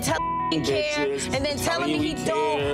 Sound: beeps

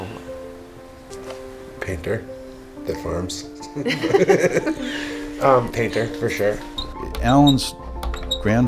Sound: laughs

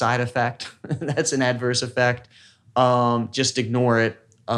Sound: laughs

